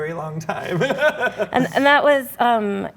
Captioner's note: laughs